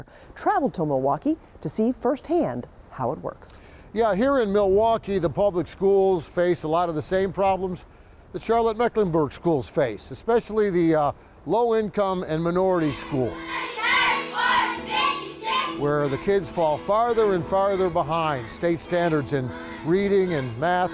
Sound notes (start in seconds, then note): 13.9 kids chanting